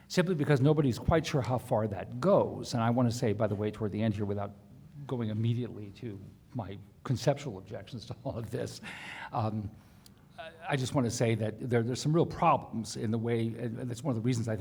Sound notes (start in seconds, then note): none